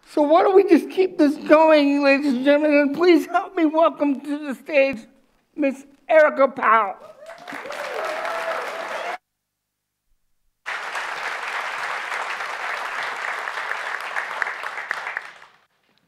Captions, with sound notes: - So why don't we just keep this going ladies and gentlemen, and please help me welcome to the stage Miss Erica Powell. (audience applauds)